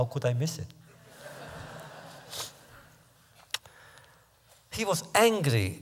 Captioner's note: laughter